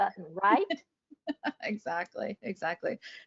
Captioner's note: laughing